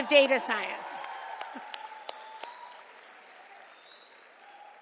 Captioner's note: cheers, applause